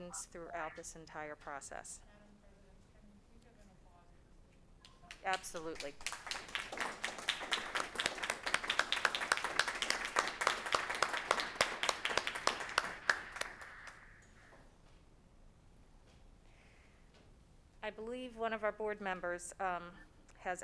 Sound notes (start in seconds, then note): 6.7 applauding